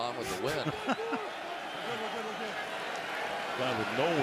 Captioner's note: laughs